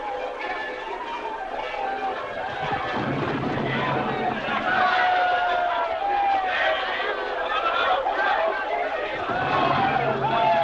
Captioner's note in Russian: колокольный звон, звуки взрывов